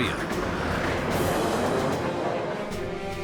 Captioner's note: planes roaring